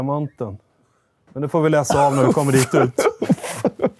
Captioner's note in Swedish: Skratt